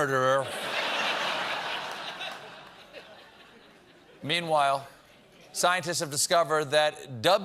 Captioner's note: laughter